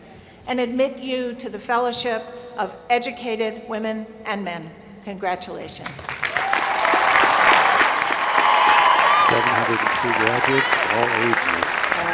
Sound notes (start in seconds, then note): 6.0 applause